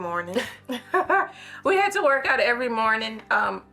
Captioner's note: laughs